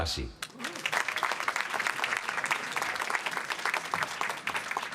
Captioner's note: applause